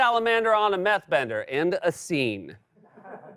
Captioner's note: normal voice